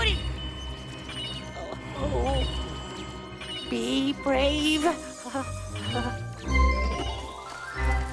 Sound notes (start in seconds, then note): 4.9 whimpering